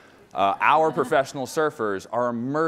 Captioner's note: laughing